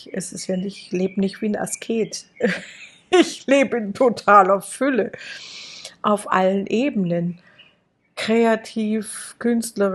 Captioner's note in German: gelächter